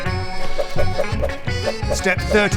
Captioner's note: air punching noises